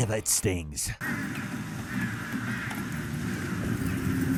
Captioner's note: crows cawing